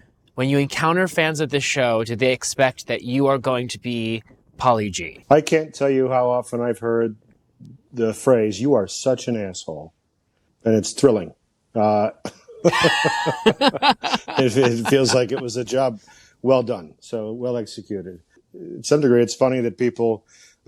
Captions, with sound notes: when you encounter fans of the show, do they expect that you are going to be Paulie G.? I can't tell you how often I've heard the phrase, "You are such an asshole." And it's thrilling. -Uh... -(BOTH LAUGH) It feels like it was a job well done, so well executed. To some degree, it's funny that people assume